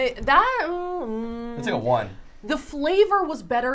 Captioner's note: humming